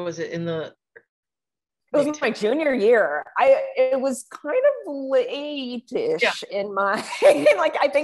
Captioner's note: laughs